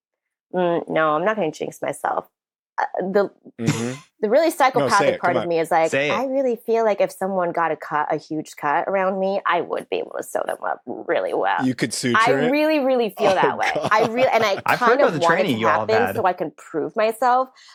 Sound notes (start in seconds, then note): 13.1 laughs\ing